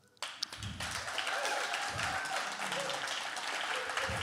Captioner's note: audience clapping